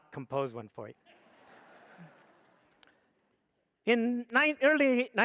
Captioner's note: audience laughs